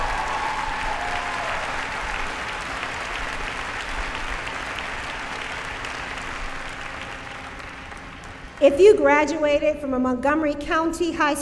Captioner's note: cheering